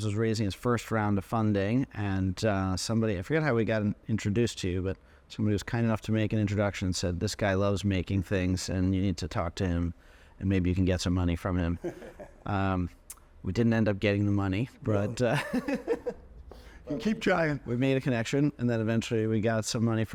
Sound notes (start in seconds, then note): 11.8 chuckling; 15.2 chuckling